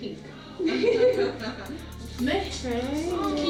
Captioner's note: laughter